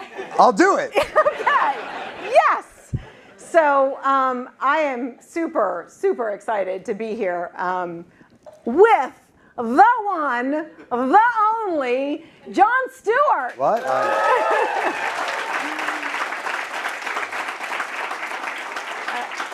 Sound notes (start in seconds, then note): 13.4 applause